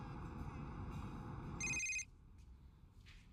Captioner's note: phone rings